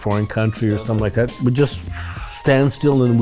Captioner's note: Cheech blows out air